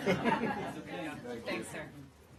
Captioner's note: laughter